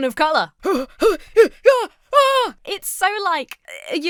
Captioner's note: groans in panic